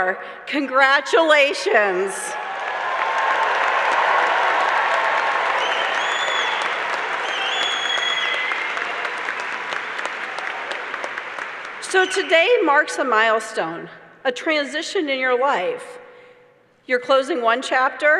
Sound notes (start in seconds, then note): 7.7 applause